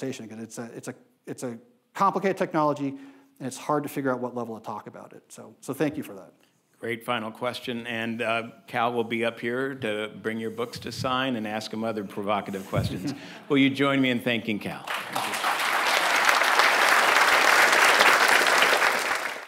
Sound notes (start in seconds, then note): 14.8 audience applauding